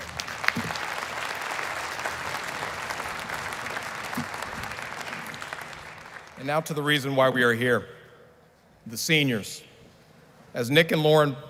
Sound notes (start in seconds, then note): 4.4 applause